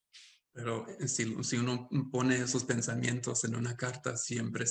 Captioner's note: speaking Spanish